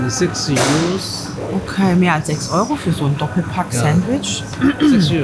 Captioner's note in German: räuspern